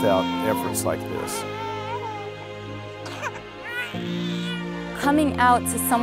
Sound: baby crying

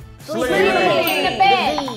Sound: bell dings

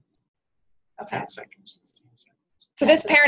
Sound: voiceover

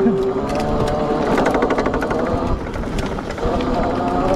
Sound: bike motor revving

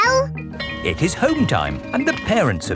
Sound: bell tolling

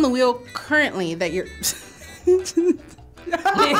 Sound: chuckles; laughs

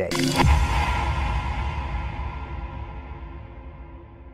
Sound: electronic banging

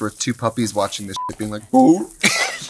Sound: beep

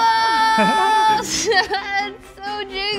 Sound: laughter

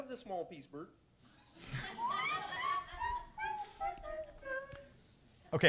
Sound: laughter

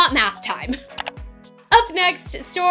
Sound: click

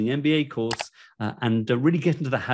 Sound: mouse clicking

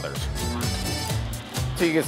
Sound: mixer hums

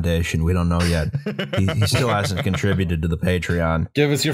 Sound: laughter

